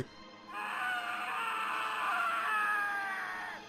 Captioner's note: sound of a prolonged scream is heard